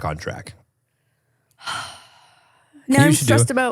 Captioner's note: sighs